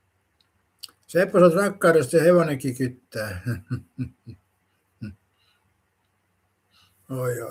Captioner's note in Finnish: naurua